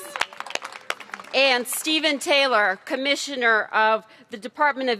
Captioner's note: applause